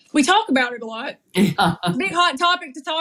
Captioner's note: laugh